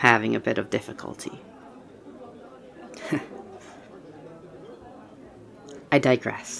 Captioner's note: quiet laugh